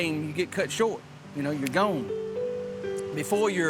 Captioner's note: fingers snapping